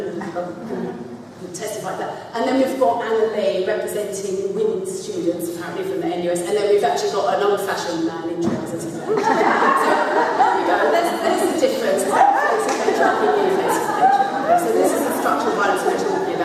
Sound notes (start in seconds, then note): 9.0 laughter; 12.7 laughter